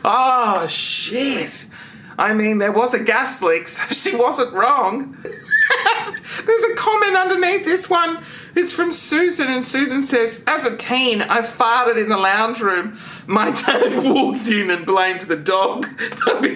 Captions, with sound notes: Ah, shit. I mean, there was a gas leak so she wasn't wrong. (laughs) There's a comment underneath this one. It's from Susan and Susan says; as a teen I farted in the lounge room, my dad walked in and blamed the dog,